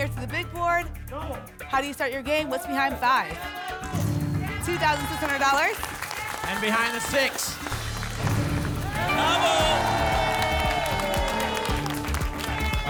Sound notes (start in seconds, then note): 8.1 booms; 10.7 applause and cheering